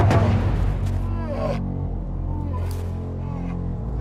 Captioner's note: bear moans